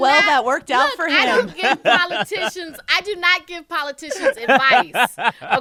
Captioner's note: laughter